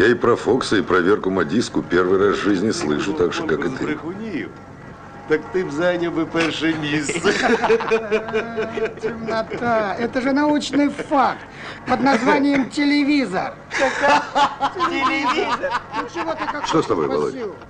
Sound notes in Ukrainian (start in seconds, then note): 6.7 сміються